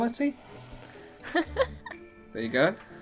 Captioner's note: giggling